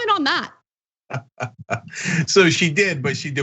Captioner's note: laugh